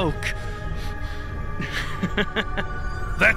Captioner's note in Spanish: Risas